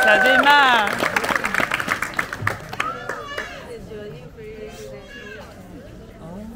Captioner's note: applause